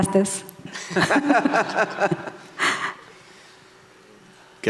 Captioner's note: laughing